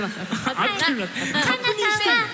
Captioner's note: chuckles